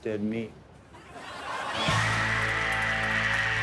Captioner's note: audience laughing